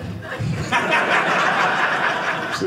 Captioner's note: audience laughing